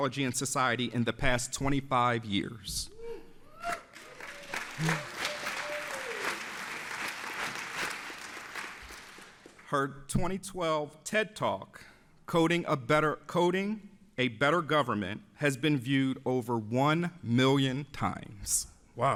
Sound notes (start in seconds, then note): 3.6 audience applauds